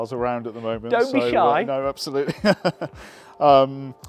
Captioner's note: laughs